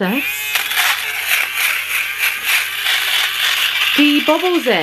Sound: machine whirring

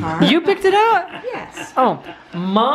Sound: voiceover

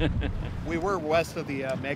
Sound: chuckling

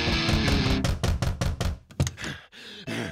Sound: pounding on door; panting

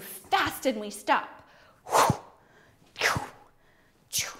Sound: whooshes

